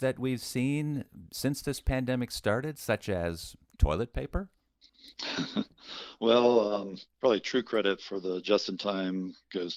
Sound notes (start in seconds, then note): 4.8 laughs